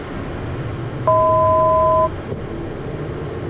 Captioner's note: 1,000 foot chime